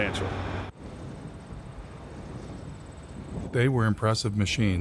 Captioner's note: wind blowing